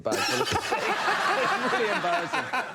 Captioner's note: laughing